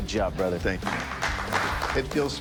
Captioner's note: applause